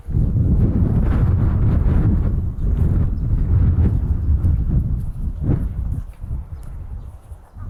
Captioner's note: strong wind